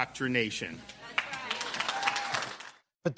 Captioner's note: cheering and applause